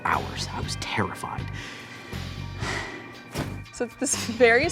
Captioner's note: sighing